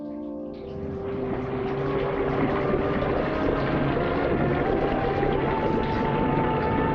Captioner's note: sinister music; liquid trickling